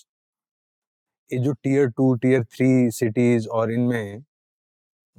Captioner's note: speaking in Hindi